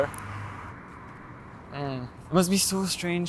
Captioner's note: car whooshes